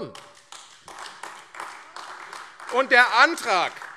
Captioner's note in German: Beifall AfD